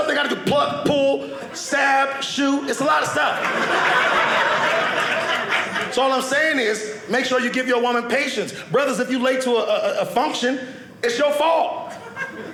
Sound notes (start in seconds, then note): 2.9 audience laughing